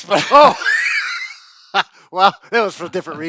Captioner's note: both laughing